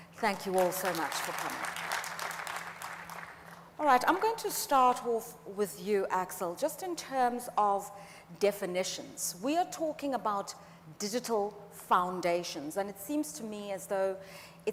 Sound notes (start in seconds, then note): 3.7 audience applauds